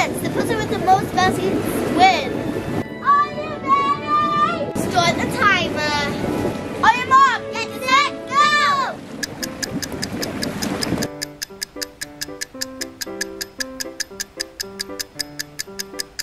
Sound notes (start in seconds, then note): 9.0 clock ticking; 10.6 lively music